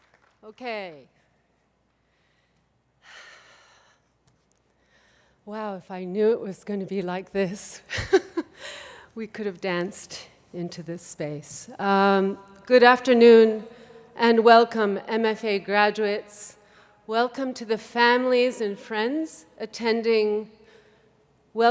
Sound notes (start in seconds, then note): 3.3 sighs